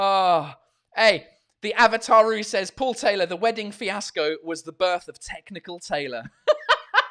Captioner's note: laughs